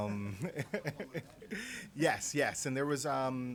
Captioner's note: laughter